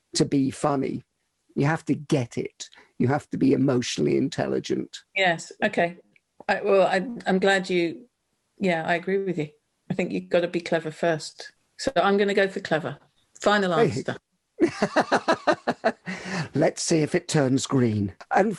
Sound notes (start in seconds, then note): 14.6 laughing